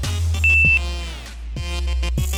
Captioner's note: cussing